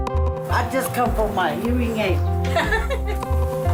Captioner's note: laughter